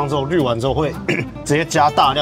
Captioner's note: cough